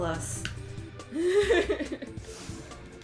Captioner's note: laughter